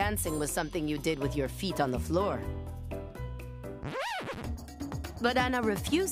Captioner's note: record scratch